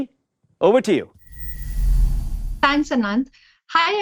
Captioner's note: air whooshes